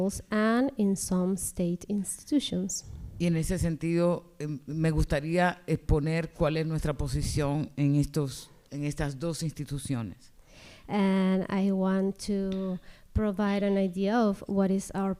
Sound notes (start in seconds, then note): 3.3 speaking spanish